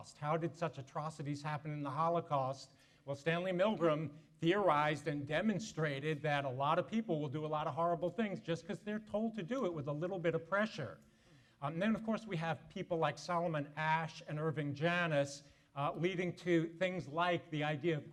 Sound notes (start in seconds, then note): none